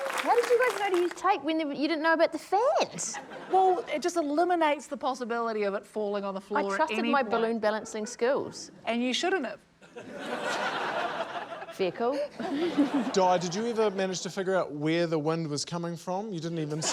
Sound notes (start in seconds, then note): 9.8 laughter